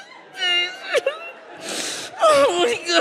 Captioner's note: audience laughs